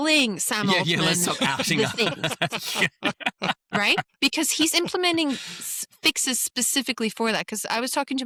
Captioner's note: laughter